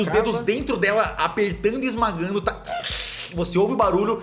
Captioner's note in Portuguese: Barulho da aranha sofrendo